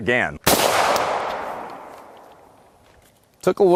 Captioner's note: gunshot